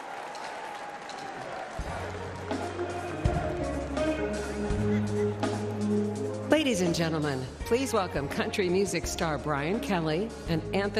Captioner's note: applause; cheering